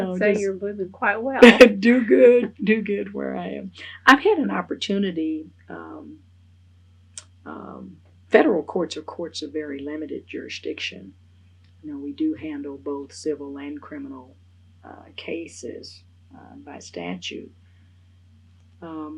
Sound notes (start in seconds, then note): 2.2 laughs